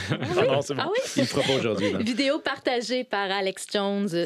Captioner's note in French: rires